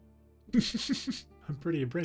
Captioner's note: chuckles